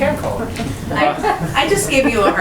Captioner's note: laughter